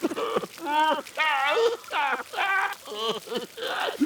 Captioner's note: sobbing loudly